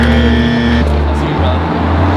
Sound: buzzer

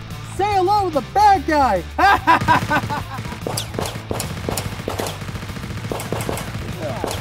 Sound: machine gun fire

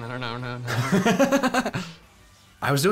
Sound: laughing

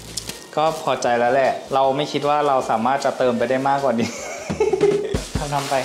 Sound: laugh

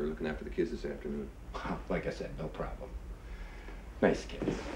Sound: chuckles

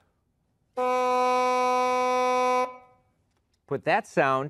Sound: bocal honking

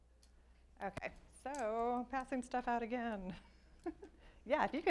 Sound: laughs

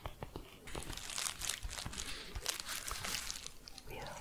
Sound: crinkling bubble envelope

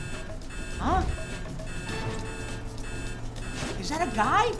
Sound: beeping

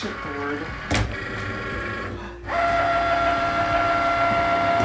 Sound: Cricut whirring

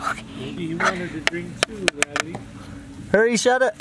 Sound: tapping

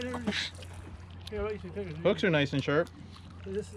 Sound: tackle rattling

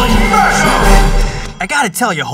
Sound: hulk growls

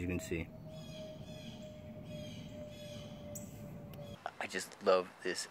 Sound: blue jay squawking

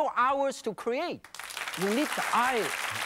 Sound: audience applauds

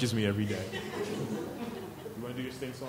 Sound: chuckling

